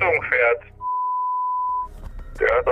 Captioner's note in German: Piepsen